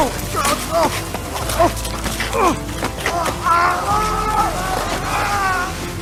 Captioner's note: gritando; gruñendo